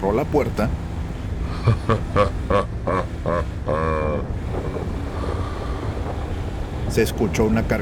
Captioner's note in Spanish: Sonido de risa macabra grave